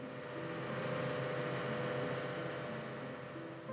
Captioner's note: boat motor purrs